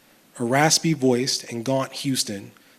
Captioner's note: none